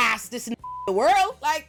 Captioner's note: beep